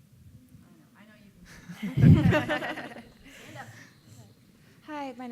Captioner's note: laughing